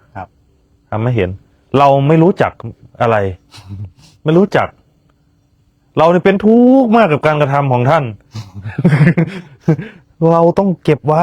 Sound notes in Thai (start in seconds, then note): 8.3 เสียงหัวเราะ